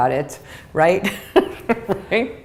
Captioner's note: chuckle